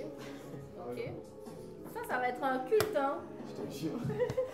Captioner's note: laughs